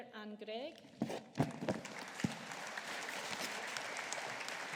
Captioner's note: audience applauding